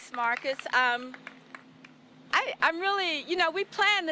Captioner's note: applause